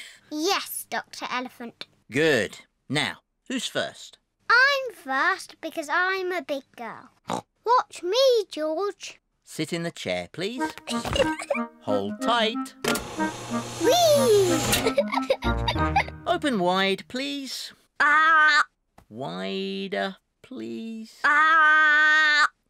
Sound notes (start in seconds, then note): 7.1 snorts; 10.8 giggles; 14.8 giggles